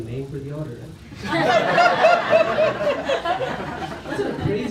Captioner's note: laughter